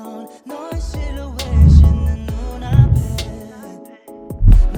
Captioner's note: camera swooshes